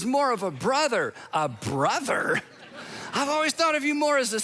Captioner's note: audience laughing